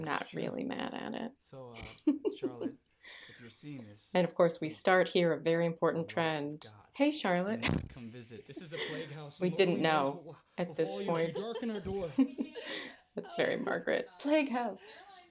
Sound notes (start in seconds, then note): 1.6 giggles